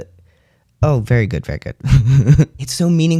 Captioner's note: laugh